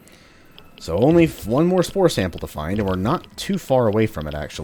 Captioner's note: none